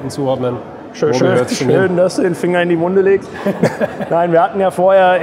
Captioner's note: laughing